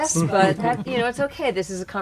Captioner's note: laughing